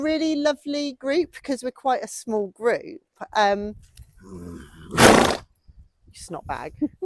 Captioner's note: horse snorts